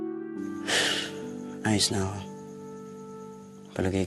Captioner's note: sighs